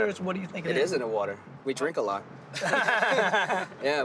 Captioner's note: laughter